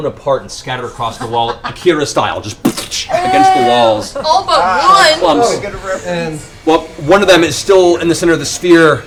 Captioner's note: splat